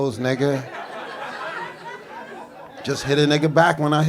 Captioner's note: audience laughing